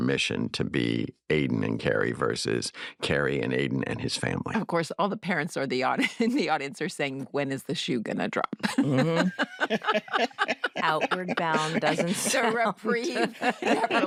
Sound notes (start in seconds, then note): 8.7 all laugh